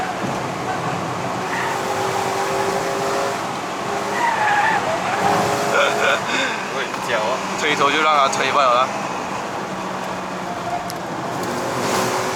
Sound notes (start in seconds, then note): 5.4 tires screech